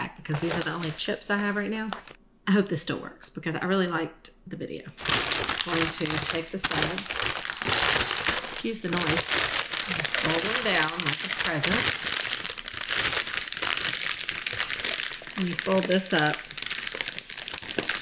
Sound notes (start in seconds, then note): 7.6 loud plastic crinkling; 12.7 loud crinkling